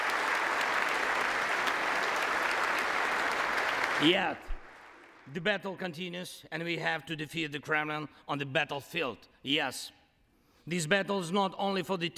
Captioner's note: applause